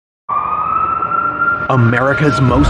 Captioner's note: sireren wails s